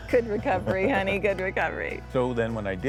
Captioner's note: laughing